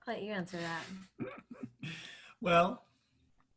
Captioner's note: laughs